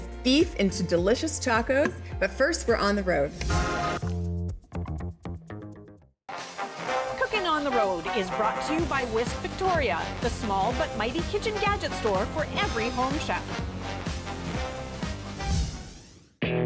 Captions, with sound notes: Beef into delicious tacos, but first, we're On the Road. [announcer voice]: Cookin on Road is brought to you by, Whisk Victoria, the small but mighty kitchen gadget store for every home chef.